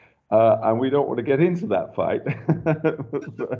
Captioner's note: chuckles